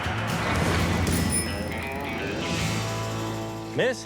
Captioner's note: bell rings